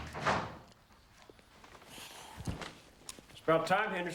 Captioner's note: door thuds